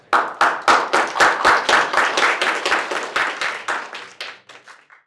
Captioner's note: applause